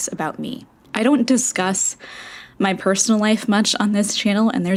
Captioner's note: inhale